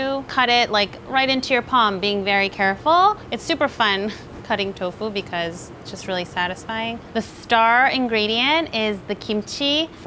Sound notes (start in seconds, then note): none